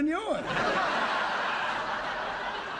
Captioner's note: laughter